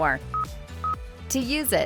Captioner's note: electronic beeping